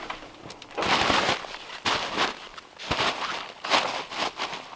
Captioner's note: tarp crunching